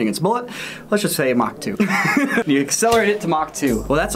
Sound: laughs

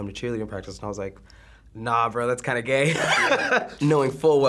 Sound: laughs

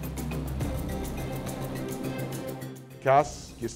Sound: music/Truck driving

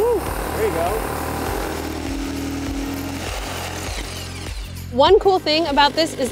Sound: whirring

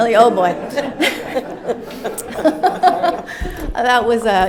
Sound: audience laughing

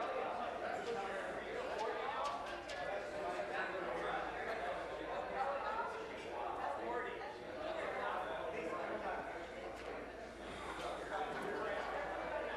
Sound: conversation din

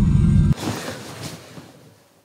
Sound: gasps

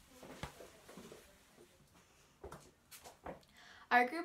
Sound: footsteps receding

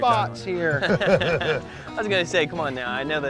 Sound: laughter

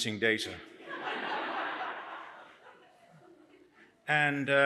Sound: laughter

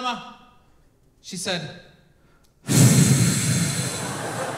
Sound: exhales

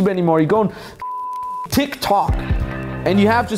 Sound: beep

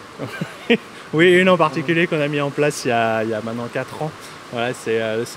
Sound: laughs

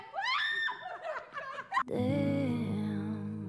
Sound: screams

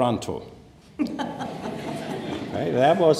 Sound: laughter

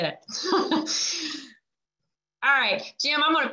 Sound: laughs

